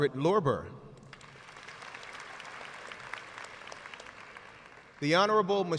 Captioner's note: audience applauds